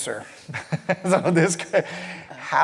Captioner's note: laughs